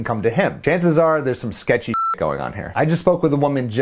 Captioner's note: beep